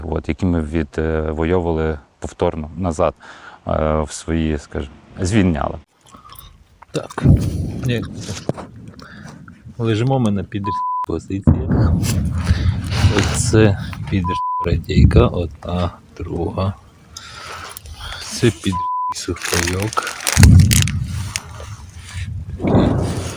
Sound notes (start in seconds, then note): 7.2 sounds of explosions; 11.4 sounds of explosions; 20.2 sounds of distant explosions